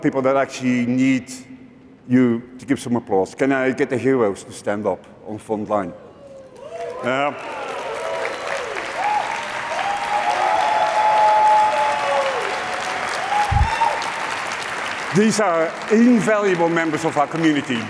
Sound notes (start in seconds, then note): 6.3 cheering